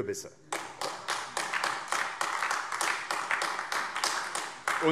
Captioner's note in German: Beifall AfD